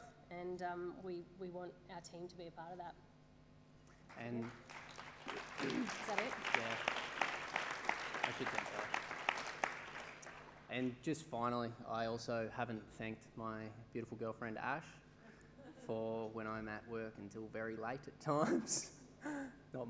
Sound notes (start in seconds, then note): 4.0 applause